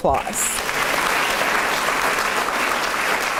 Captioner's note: applause